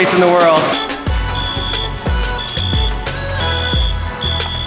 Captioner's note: beeping